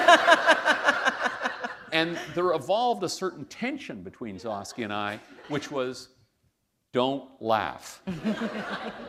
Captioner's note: laughter